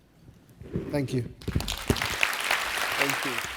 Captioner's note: applause